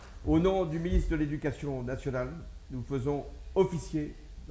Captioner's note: speaks French